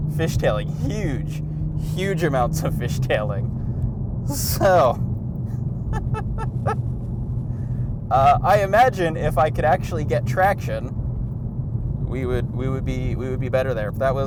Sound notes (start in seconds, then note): 5.9 laughing